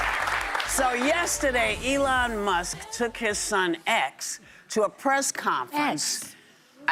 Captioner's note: cheers and applause